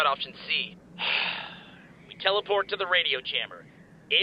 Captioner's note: sigh